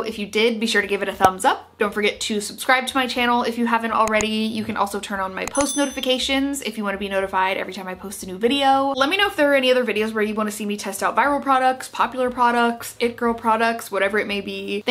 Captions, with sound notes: If you did, be sure to give it a thumbs up. Don't forget to subscribe to my channel if you haven't already. (mouse clicking) You can also turn on my post notifications (bell dings) if you wanna be notified every time I post a new video. Let me know if there are any other videos where you wanna see me test out viral products, popular products, it girl products, whatever it may be.